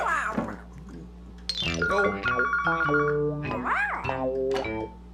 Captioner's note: phone Rings